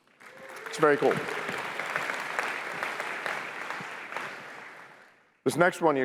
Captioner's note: applause